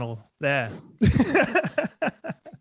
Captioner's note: laughter